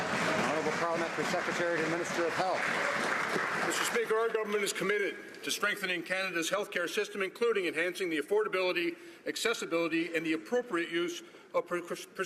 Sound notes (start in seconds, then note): 3.1 some Applause